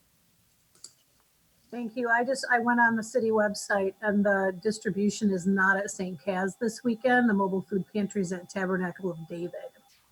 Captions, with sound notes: (mouse clicks) - Thank you. I went on the city website and the distribution is not at Saint Cas this weekend, the mobile food pantries and Tabernacle of David.